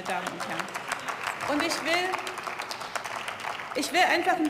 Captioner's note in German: Beifall